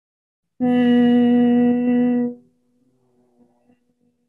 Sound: humming

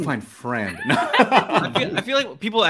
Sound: laugh

